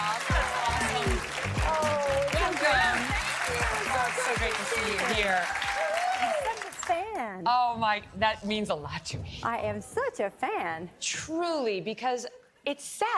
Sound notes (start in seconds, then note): 6.1 applause